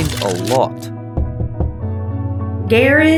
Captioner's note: DAR-C knocking on the door to the study